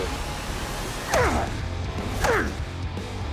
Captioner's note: grunting; dramatic rock music playing